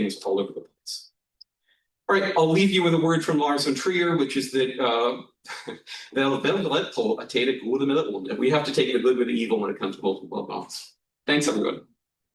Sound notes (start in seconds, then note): 6.2 non-english